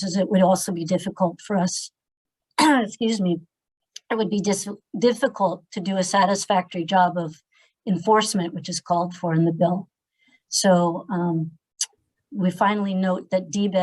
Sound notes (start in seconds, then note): 2.7 clears throat